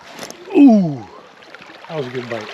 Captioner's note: rod whipping